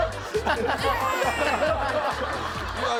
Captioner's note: tearing up